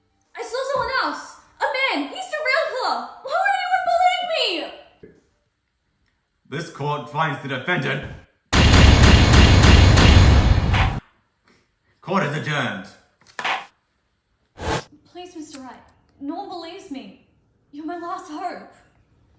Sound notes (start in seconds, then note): 10.5 slam; 13.2 slam